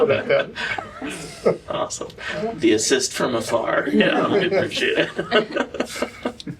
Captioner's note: laughter